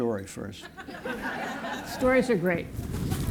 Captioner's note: laughter